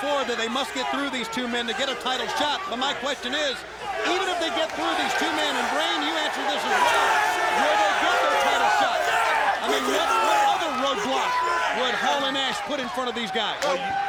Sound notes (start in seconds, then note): 7.6 crowd exclaiming